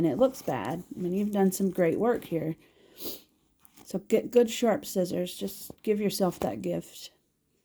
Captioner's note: sniffle